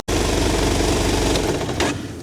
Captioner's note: engine noise